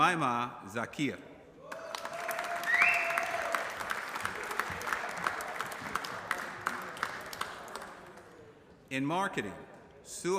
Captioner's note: applause